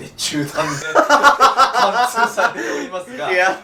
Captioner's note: laughing